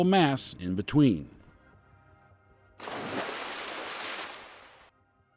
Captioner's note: splash